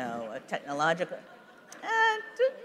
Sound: laughter

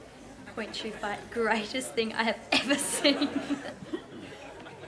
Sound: chuckles

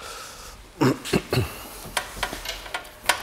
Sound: clearing his throat

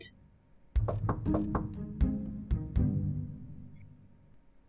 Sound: knock Knock Knock

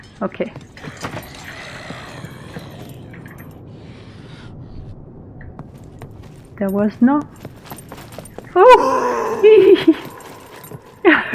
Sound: laughs

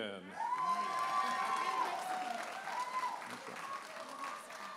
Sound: audience applauding and cheering

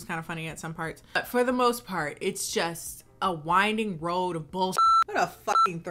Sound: beep

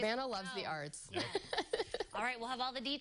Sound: laughter

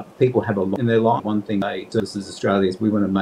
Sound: audio distorting

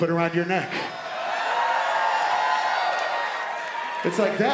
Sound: crowd cheering

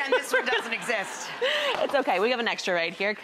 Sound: audience laughs

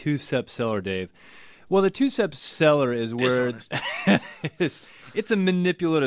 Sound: laughs

